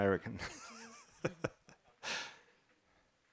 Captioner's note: laugh